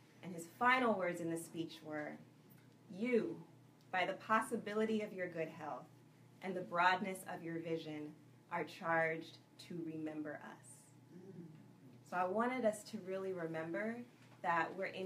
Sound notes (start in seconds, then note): none